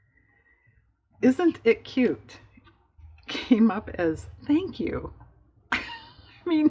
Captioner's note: laughs